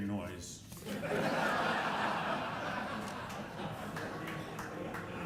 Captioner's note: audience laughing